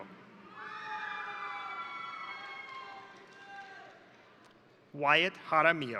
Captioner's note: crowd cheering; crowd applauding